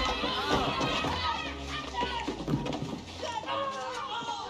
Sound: Goonies screaming

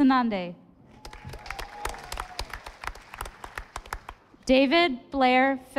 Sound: audience applauding

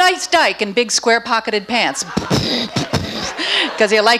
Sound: imitates rumbling

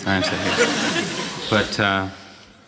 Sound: audience laughing

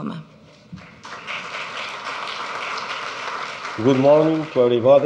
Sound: audience clapping

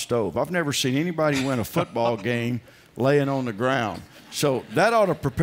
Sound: laughter

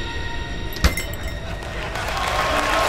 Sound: door closes; applause

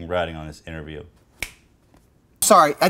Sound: finger snap

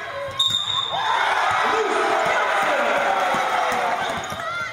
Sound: cheers

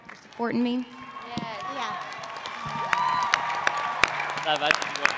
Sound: cheering

